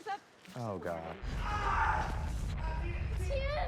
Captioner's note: screaming